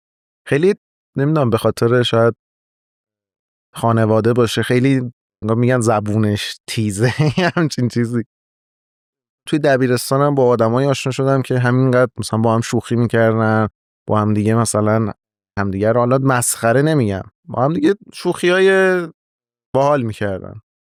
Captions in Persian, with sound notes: خیلی نمی‌دونم، به خاطر شاید خانواده باشه. خیلی انگار می‌گن زبونش تیزه (خنده) یه همچین چیزی. توی دبیرستان هم با ادم‌هایی آشنا شدم که همین‌قدر مثلاً با هم شوخی می‌کردن، با همدیگه مثلاً همدیگه رو، حالا مسخره نمی‌گم، با همدیگه شوخی‌های باحال می‌کردن.